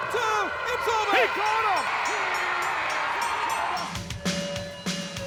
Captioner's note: bell ringing; upbeat music